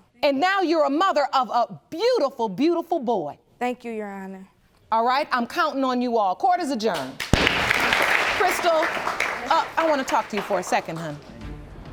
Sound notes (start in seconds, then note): 7.1 gavel banging